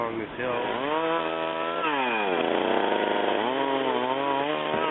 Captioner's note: chainsaw cutting